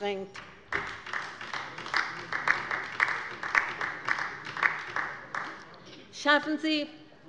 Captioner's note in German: Beifall bei der LINKEN